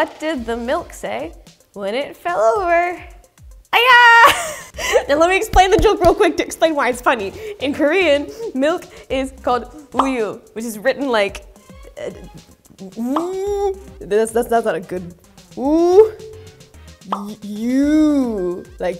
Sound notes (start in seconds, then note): 4.2 laughs; 12.8 hums; 17.0 bubble pops